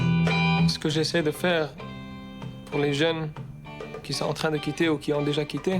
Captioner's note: speaking in foreign language